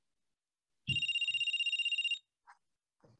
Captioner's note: phone Rings